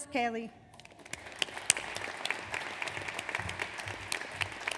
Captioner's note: audience applauds